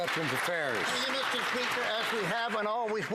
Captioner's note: some Applause